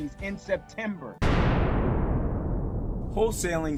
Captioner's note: bang